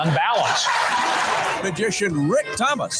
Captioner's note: audience laughing and cheering